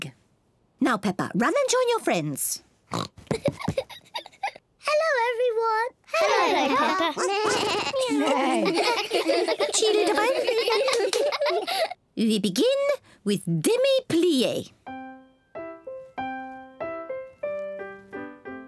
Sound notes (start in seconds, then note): 2.9 oinks and giggles; 6.8 all making animal sounds; 14.8 gentle piano music playing